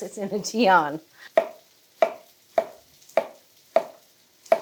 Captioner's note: knife chopping